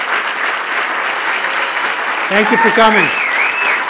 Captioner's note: cheers and applause continue